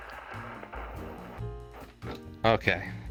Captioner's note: record stops